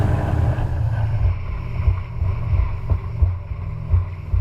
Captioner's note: boat whirring